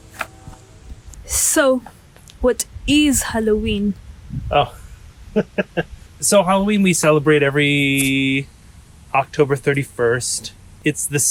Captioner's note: laughing